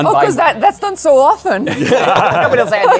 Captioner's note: laughter